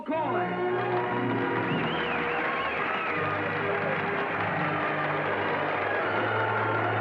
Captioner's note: triumphant music; crowd cheering